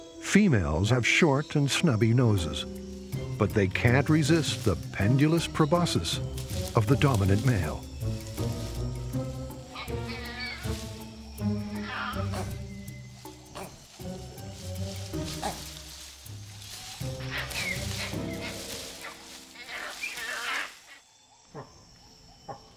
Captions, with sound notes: Females have short and stubby noses, but they can't resist the pendulous proboscis of the dominant male. (cheeky music) (monkeys grunting)